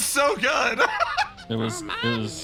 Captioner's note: laugh